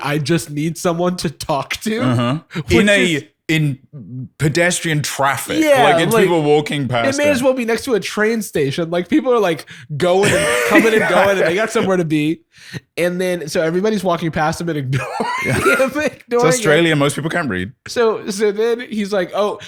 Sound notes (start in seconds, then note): 14.9 laughs